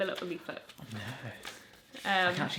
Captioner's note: whispering